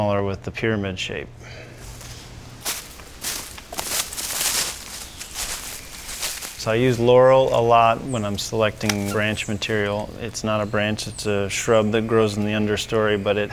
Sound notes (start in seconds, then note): 2.5 footsteps crunching